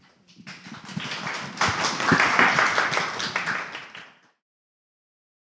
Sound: applause

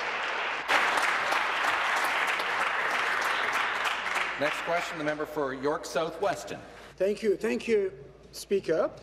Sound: applause

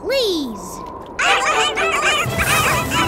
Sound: barking

